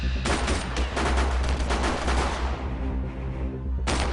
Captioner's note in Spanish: Disparos